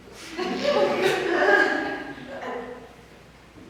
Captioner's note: audience laughs